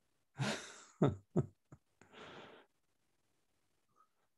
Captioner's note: laughs